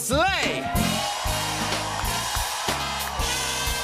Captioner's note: cheers and applause